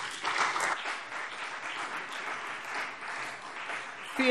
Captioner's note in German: Beifall CDU und BÜNDNIS 90/DIE GRÜNEN